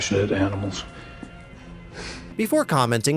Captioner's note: ryan sighs